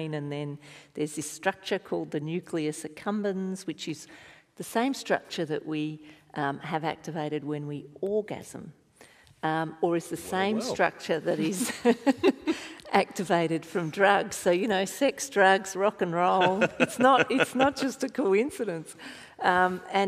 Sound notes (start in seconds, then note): 11.3 laughing; 16.4 laughing